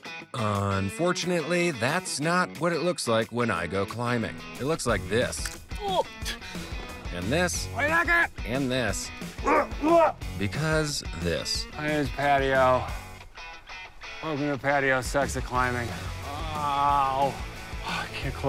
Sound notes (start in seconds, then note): 9.1 yells